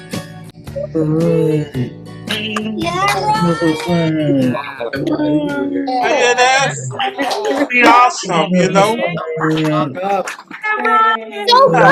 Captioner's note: applause